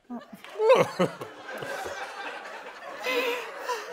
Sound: chuckling

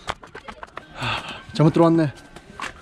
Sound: sigh

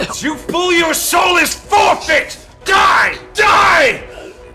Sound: booming, gasping, coughing; yelling

